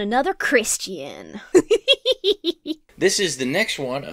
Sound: titters

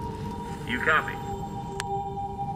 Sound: radio

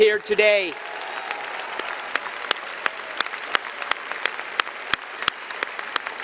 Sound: applause and cheering

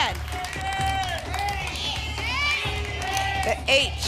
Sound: audience shouting letters

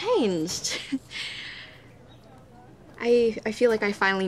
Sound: chuckles

